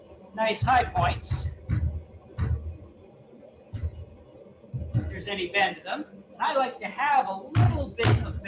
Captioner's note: hammering